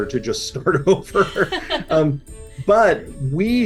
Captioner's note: laughing